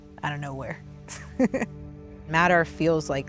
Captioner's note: laughs